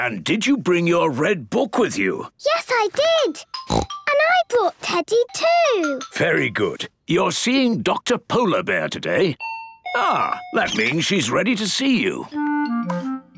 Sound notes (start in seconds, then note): 3.6 snorts; 9.6 dinging